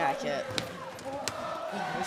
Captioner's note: fans chanting